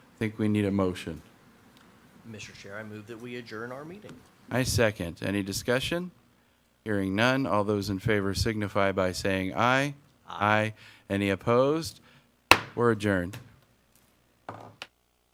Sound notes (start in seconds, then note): 12.5 gavel banging